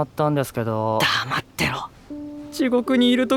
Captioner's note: coldly; whispering his way